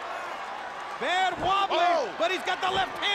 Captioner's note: crowd cheering